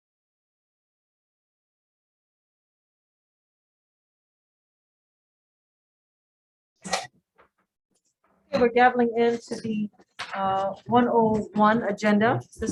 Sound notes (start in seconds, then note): 7.7 hammers the table